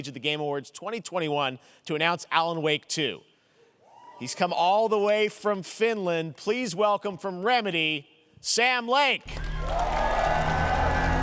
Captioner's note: cheers and applause